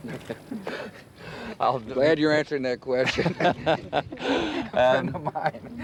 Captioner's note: laughs